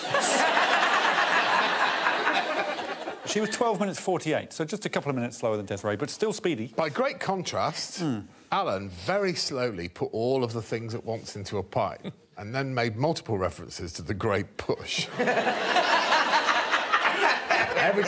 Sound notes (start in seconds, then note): 2.6 all laughing; 17.9 all laughing